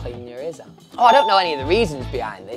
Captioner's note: bell chimes